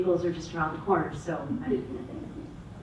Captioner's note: audience members laugh